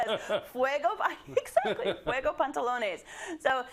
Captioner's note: laugh